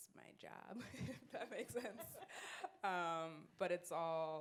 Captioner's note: laughs